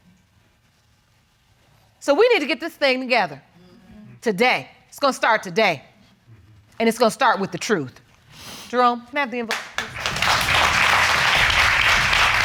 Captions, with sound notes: So we need to get this thing together. Today. It's gonna start today. And it's gonna start with the truth. Jerome, can I have the envelope, please? (AUDIENCE APPLAUDING)